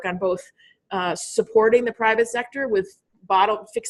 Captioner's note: none